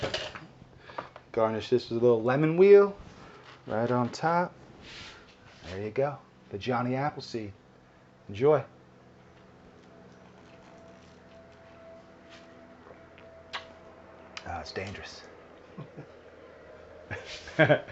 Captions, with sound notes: Garnish this with a little lemon wheel, right on top. There you go, the Johnny Appleseed, enjoy. (lips smacking) Ah, it's dangerous. (chuckles)